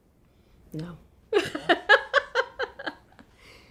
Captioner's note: laughs